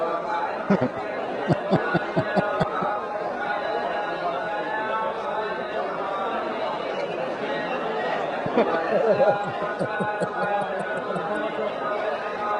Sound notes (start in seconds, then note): 1.4 Ketawa; 3.3 Tepuk tangan; 8.4 Ketawa